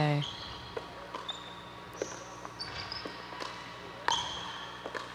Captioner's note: ball bouncing